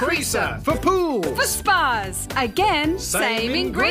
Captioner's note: none